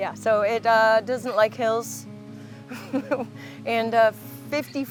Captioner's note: laughing